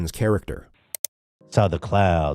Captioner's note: click